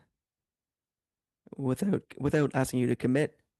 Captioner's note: speaking French